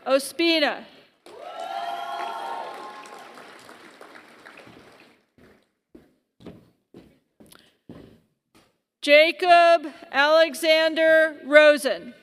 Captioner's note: applause